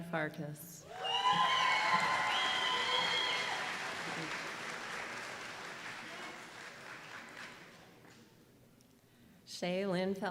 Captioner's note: applause